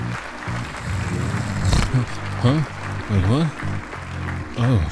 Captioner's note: duke snores